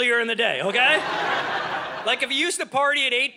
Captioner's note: audience laughing